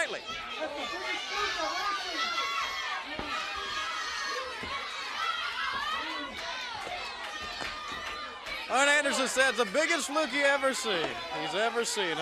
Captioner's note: crowd chatter